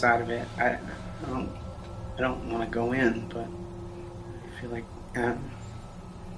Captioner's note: stammering